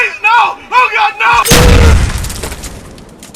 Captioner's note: boom!